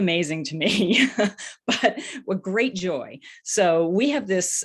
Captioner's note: laughs